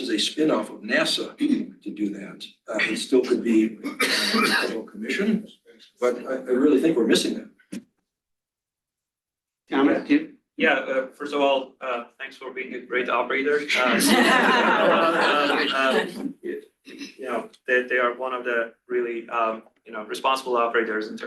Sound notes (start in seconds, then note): 13.7 laughter